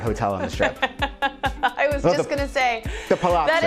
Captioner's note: laughs